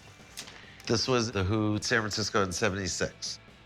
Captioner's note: none